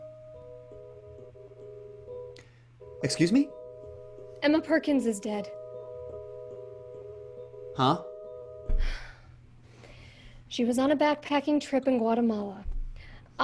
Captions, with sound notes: (ominous music) - Excuse me? - Emma Perkins is dead. - Huh? (sigh) - She was on a backpacking trip in Guatemala.